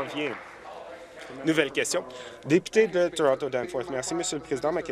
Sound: applause

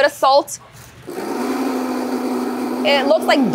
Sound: blender whirring

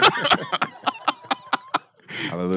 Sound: laughing

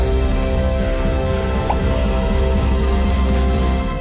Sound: pop

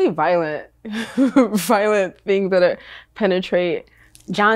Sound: laughs

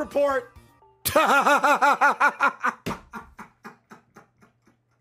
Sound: laughs

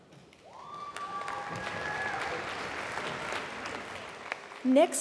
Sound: applause

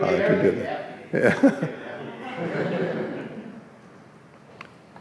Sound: laughs

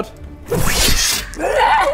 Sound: whoosh!

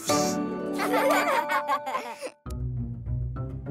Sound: giggling

